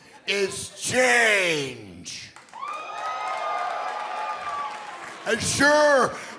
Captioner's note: crowd cheering